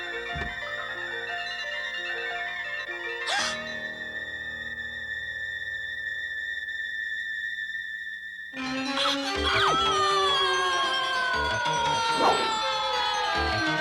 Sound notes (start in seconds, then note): 3.3 gasps